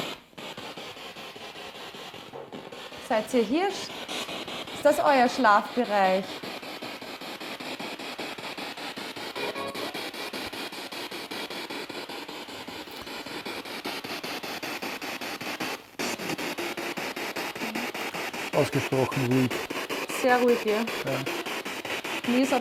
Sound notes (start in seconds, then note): 9.3 noise of the spiritbox in the background